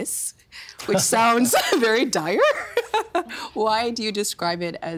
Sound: laughing

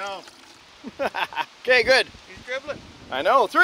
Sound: crew member laughs

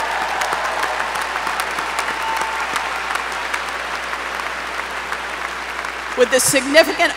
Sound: applause

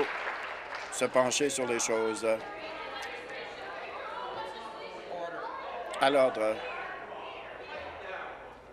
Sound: applause

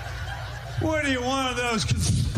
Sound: laughter

